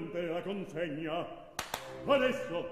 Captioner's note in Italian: Claps hands